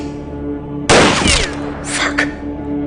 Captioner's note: gun firing